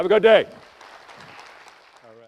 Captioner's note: applause